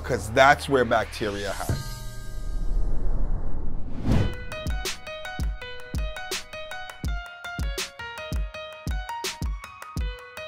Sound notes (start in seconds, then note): 1.8 gong bangs; 4.2 upbeat music